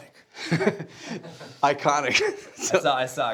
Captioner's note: laughing